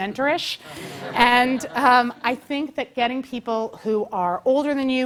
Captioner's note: laugh